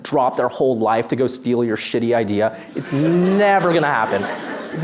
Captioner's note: laughter